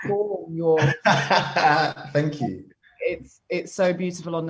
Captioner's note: laughs